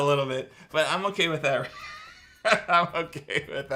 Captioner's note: laughs